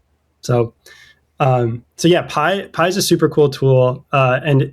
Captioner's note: uh